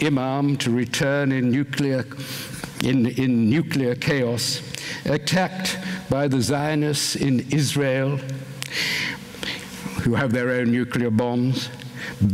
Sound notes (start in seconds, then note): none